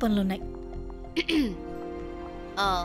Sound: Revti clearing throat

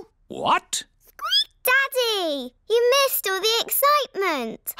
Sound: squeaks

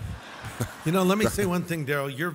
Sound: audience laughs

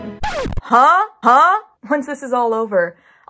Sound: record scratch

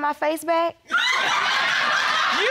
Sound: audience laughing

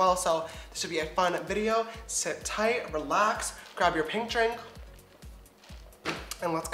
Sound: sips

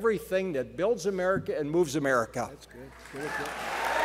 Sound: applause

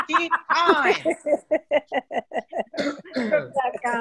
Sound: laughter

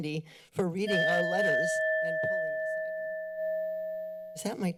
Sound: bell chimes

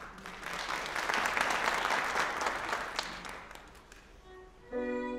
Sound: applause

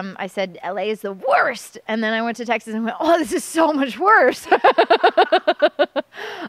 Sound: laughter

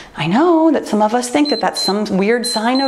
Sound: timer beeps

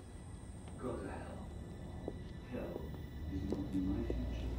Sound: muffled radio chatter

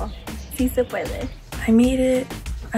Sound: speaks in foreign language

